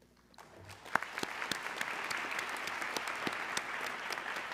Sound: audience clapping

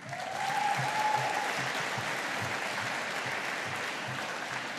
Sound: audience applauding

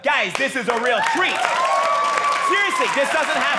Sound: audience cheering

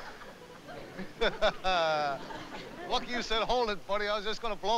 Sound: chuckles

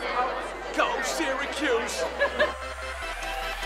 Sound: woman in background laughs

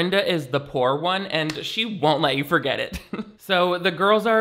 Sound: chuckles

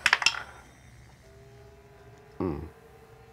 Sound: dice rattle

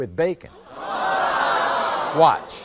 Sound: audience screaming

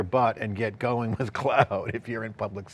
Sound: laughing

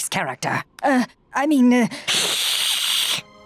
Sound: hissing

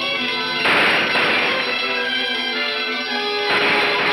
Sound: gun roars

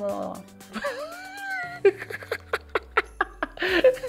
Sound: laughing

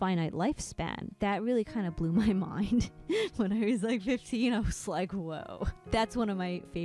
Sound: laughing

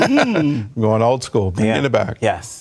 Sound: laughter

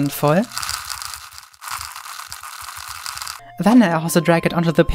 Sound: crackling sound

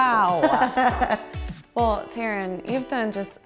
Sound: laughs

